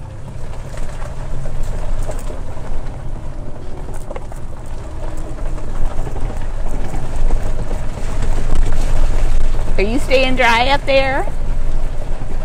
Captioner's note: vibrations